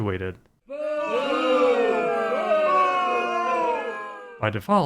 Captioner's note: crowd booing